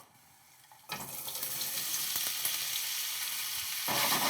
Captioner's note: oil sizzling